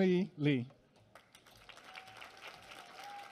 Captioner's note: applause